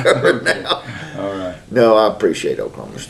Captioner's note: laughter